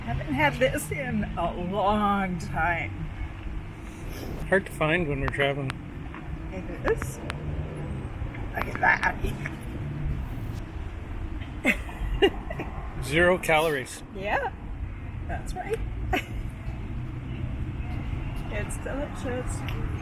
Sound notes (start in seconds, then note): 11.5 chuckling; 15.7 laughing